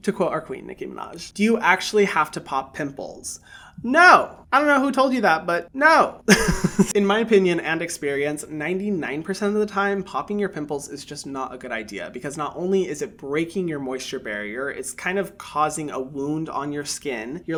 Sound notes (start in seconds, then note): 6.2 laughs